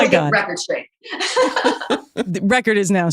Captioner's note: laughing